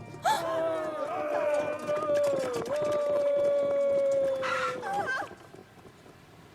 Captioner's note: growling